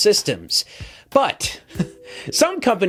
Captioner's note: chuckles